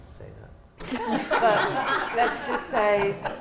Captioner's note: laughter